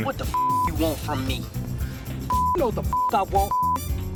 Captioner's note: beep